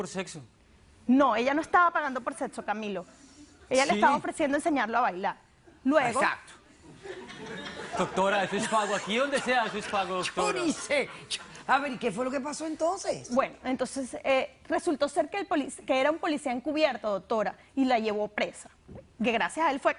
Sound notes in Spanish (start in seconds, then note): 6.8 Risas